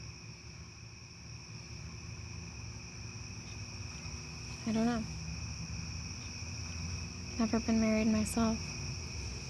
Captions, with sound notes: (crickets chirp) - I don't know. Never been married myself.